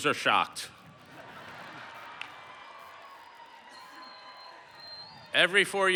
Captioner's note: laughter